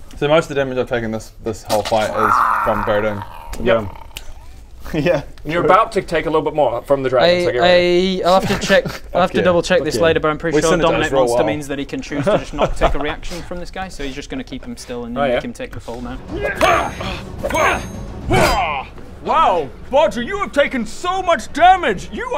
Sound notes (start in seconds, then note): 17.4 urgh!